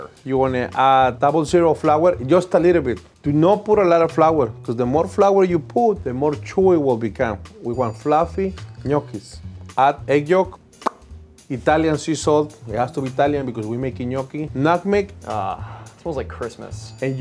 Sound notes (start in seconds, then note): 10.8 smacks